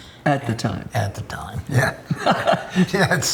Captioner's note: laughs